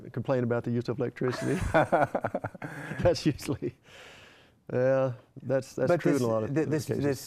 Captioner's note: laughter